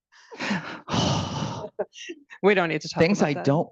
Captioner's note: sighing; laughing